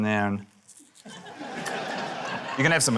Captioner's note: laughter